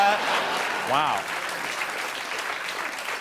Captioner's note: applause